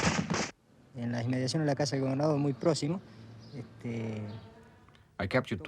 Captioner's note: man speaking in foreign language